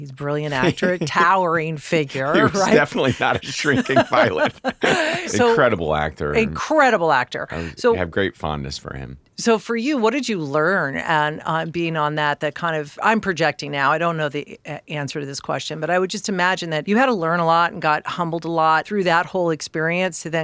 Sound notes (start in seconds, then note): 4.9 laughing